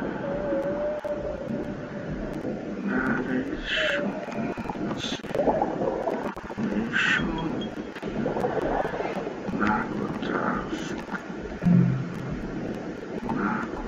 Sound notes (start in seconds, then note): 2.5 sound of submarine; 8.3 whispering; 12.3 sound of submarine; 12.3 whispering